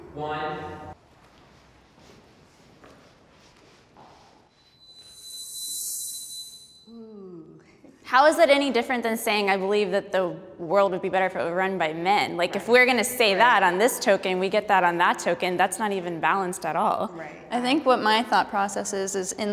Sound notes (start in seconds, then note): 4.6 bell ringing